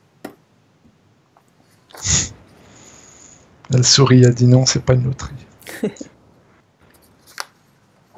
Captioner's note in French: rires